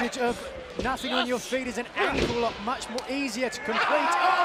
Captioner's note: crowd cheering